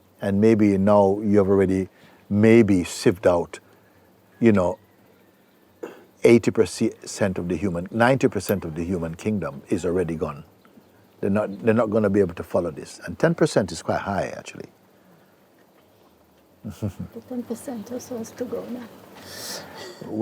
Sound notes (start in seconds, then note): 16.6 laughs